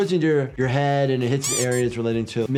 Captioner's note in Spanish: chirrido de uñas